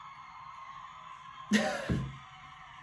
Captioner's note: chuckles